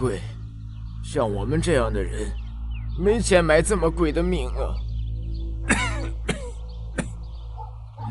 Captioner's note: cough